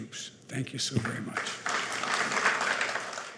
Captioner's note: applause